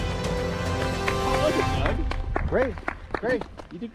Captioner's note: clapping